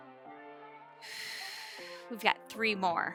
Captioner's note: exhaling